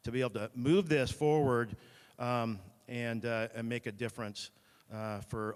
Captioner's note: none